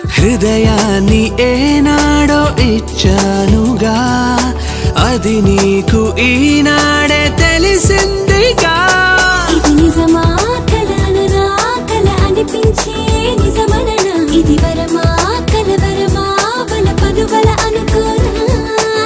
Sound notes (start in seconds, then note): none